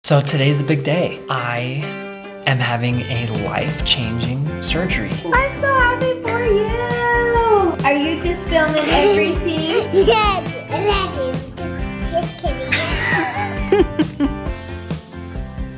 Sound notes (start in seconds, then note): 8.6 giggles; 12.7 chuckles